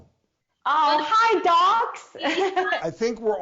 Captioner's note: chuckles